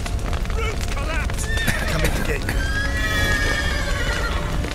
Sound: cough

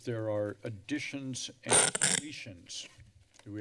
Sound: screeching noise

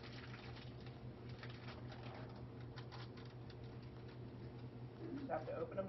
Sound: unwrapping

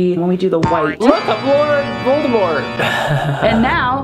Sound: laugh

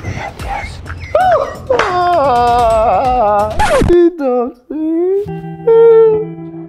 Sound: Dammy faking cry

